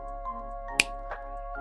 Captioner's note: snap